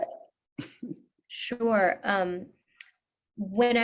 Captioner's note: chuckles